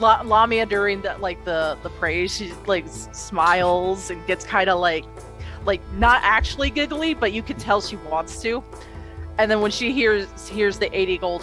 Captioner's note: exhales